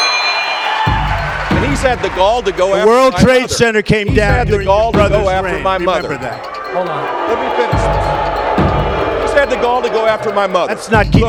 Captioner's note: booing